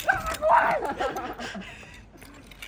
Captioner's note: laughs